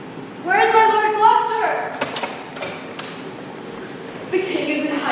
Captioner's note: door opens offscreen